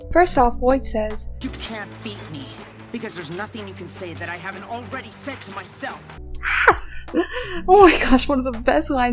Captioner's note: emo squeal